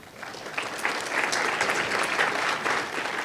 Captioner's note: applause